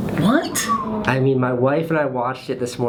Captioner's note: whistles